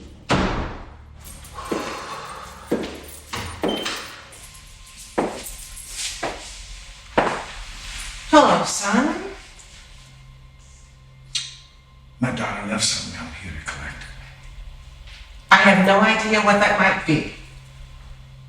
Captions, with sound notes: (door clacking) (Opal sighing) - Hello, son. - My daughter left something and I'm here to collect it. - I have no idea what that might be